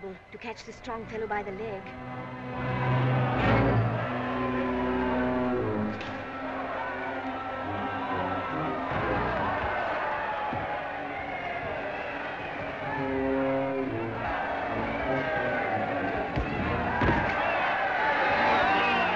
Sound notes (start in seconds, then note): 3.6 crowd cheering; 3.6 ominous music